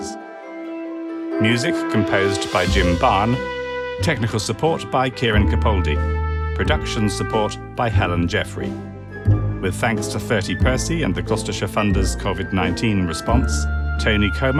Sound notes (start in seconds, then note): none